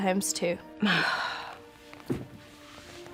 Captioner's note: sighs